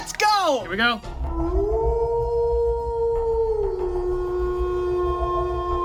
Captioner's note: wolf howling